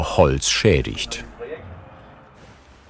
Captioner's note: snippets of conversation